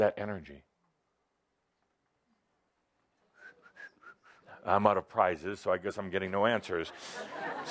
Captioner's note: whistles